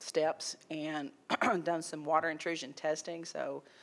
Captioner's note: clears throat